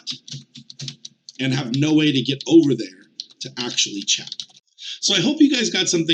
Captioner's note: pressing buttons